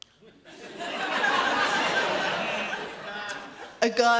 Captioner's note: audience laughs